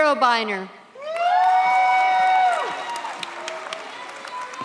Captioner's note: audience cheers